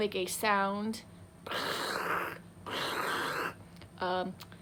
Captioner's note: purrs badly